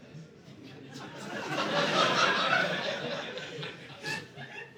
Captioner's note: audience laughing